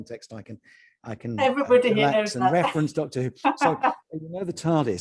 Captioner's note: laughs